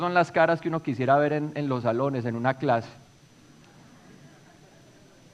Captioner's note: laughs from audience